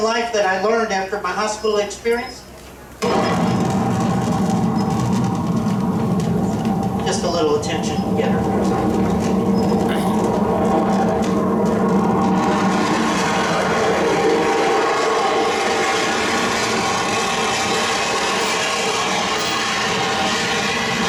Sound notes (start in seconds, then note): 3.9 roar of the SR-71's jet engines; 11.6 jet engine roar continues to get louder